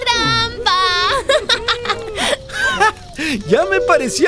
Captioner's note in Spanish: Risas